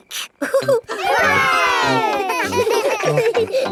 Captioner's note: chuckles; laughing